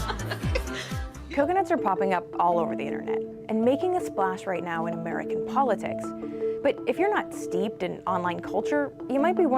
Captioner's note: laughter